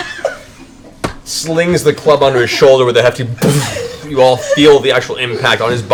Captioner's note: speaks Undercommon; impact sound